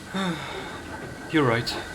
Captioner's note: sighs